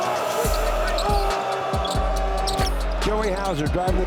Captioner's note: crowd cheering; sneakers squeaking